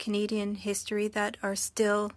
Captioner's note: speaking French